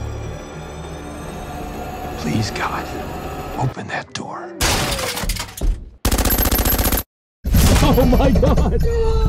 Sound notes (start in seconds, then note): 4.6 door shattering; 6.0 gunshots